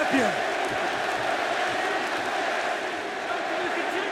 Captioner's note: audience chanting